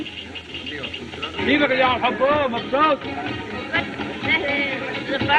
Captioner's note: chattering In Native Language